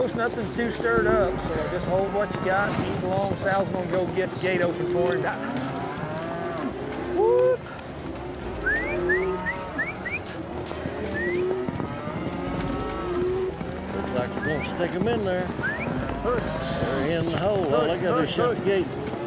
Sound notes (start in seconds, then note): 5.1 cows mooing; 8.5 whistling; 10.8 cows mooing